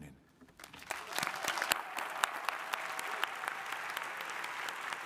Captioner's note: crowd applauding